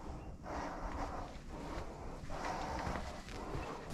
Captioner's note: heavy breathing